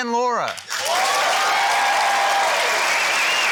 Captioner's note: cheering, applause